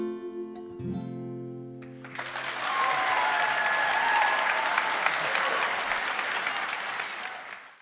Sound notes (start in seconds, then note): 1.8 applause and cheering